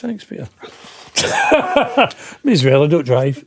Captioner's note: laughing